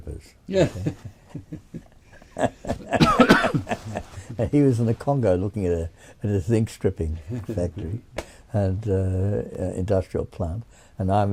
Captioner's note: laughs